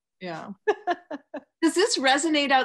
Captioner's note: laughs